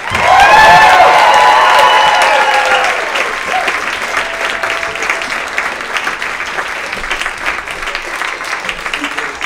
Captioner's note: even more Thunderous Applause